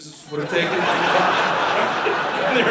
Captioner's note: audience laughing